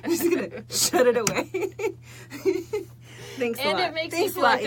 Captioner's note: laughing